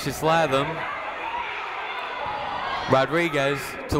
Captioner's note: people shouting in the crowd